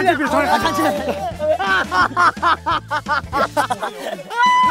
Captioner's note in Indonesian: Ahahahahaha!